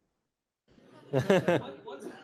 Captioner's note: laughter